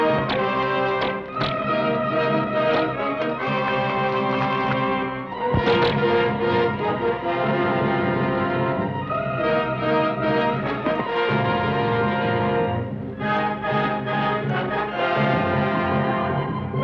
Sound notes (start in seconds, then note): 0.0 bullet ricochets; 0.0 gun fires; 0.2 bows twang; 5.5 bows twang